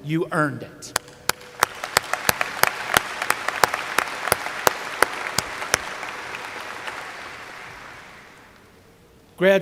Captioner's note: applause